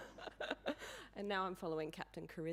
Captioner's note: audience laughing